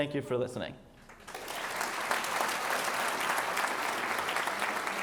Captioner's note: audience applauds